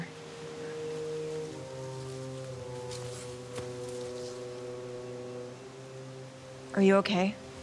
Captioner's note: leaves rustling; pensive music continues